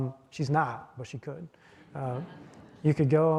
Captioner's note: audience chuckling